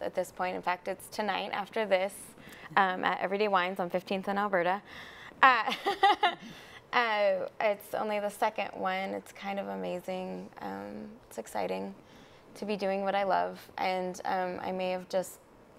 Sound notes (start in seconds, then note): 5.7 chuckles